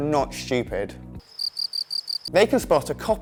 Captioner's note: crickets